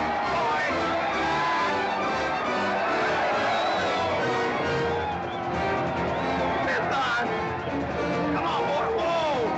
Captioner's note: crowd yelling